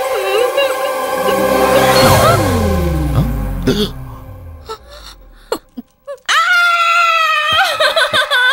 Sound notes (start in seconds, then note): 3.6 gasps; 6.2 screams